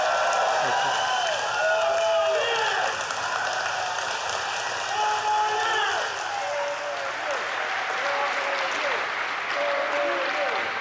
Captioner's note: applause